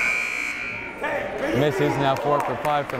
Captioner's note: buzzer blaring